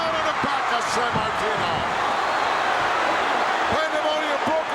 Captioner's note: audience cheering